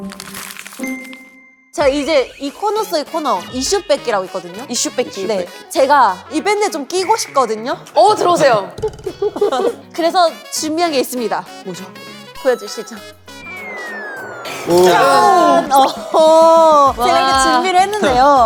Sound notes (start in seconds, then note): 8.6 astonished; 12.2 confident